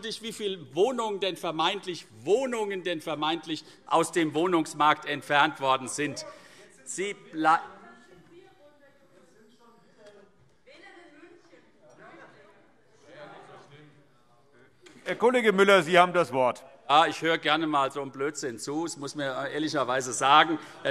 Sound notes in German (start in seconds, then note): none